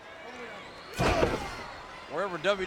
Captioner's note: Triple H grunts; foot thuds; Triple H grunts; foot thuds